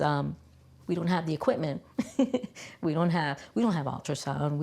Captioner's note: laughs